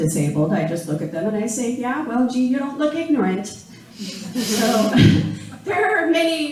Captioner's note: laughing